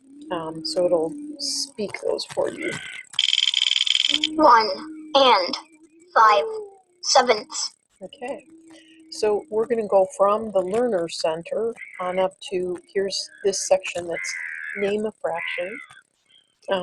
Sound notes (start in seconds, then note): 2.3 wheel clicking; 4.8 voiceover